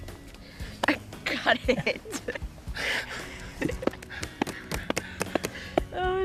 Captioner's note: laughing